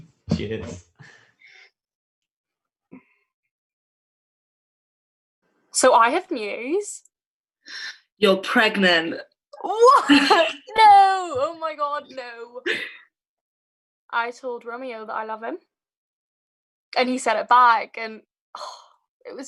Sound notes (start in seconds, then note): 0.2 laughing; 9.9 laughing